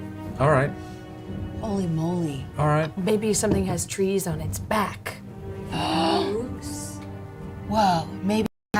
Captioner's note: none